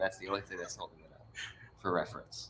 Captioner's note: chuckles